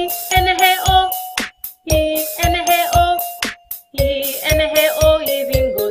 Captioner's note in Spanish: clap